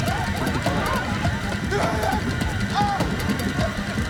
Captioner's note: screaming